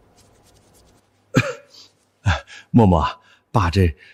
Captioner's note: cough cough